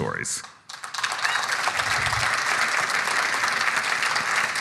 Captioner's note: audience applauding